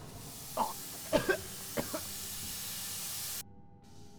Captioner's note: loud bang, air hissing; coughing